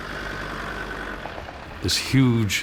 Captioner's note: car engine rumbling